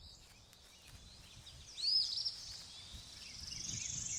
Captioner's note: birds chirping